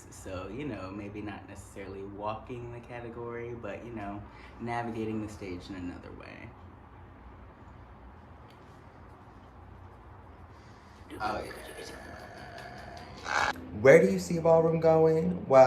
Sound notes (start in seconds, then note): 11.2 person ululating; 11.2 speaks gibberish